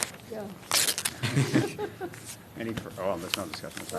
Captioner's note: laughter